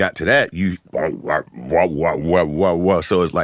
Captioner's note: beat boxing